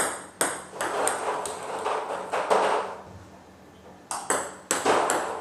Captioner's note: ball ping pong hitting continues